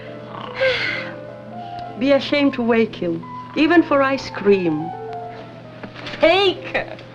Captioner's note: sighs